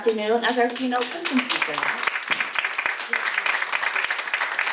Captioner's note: applause